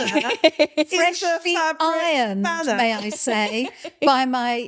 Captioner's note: laughing